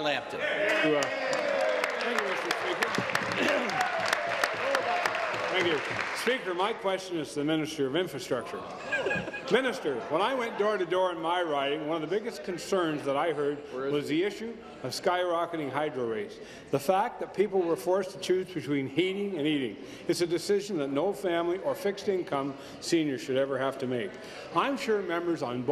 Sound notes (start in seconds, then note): 4.7 applause